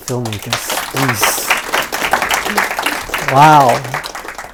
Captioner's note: audience claps